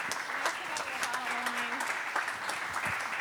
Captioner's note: applause